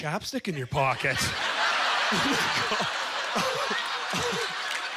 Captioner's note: audience laughter